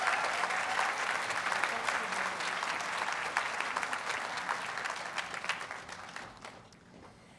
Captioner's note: audience applauds and cheers